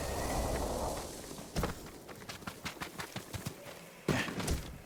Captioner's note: footsteps